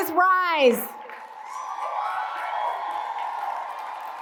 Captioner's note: cheers and applause